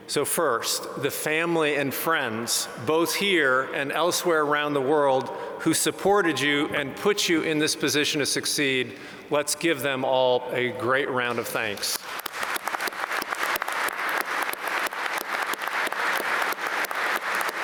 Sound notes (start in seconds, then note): 11.9 applause